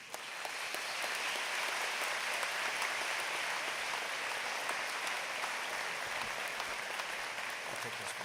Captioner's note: applause